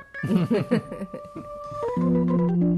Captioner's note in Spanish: risas